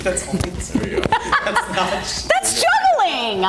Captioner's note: laughing